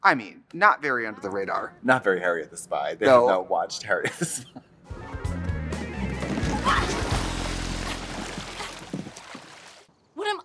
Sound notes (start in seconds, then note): 6.2 water splashing; 6.3 laughs; 6.5 Devi shrieks